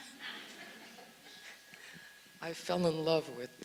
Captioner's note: audience laughs